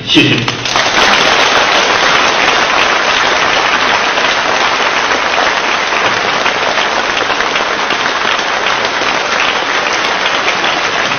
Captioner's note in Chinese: 掌声